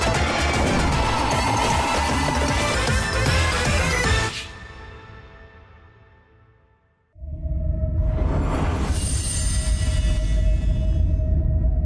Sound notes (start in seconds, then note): 7.2 low tones